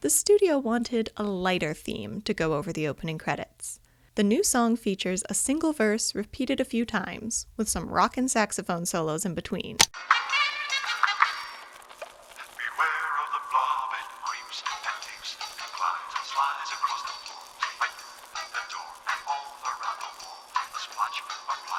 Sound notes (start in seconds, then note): 10.0 saxophone music; 12.9 pop